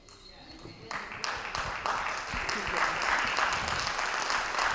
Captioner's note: audience applauding